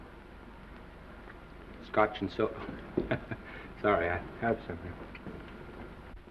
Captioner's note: chuckles